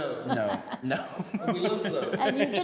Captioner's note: both laughing